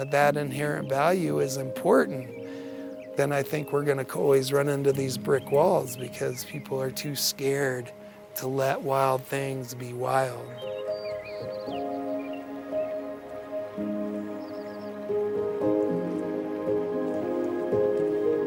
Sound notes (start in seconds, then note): 12.0 mellow music; 14.2 birds chirping